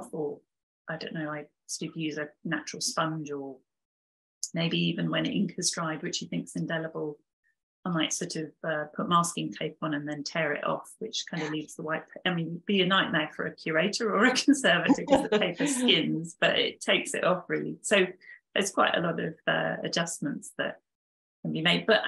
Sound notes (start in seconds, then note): 15.6 both chuckling